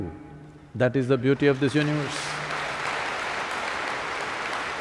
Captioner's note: applause; 掌聲